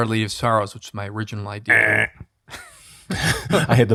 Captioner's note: PT buzzing; chuckles